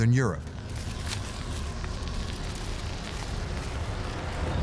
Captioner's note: wind howling and crackling ice